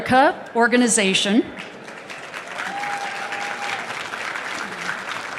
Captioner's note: applause